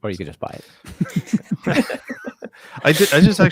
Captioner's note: both laughing